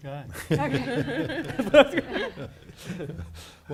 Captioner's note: everyone laughing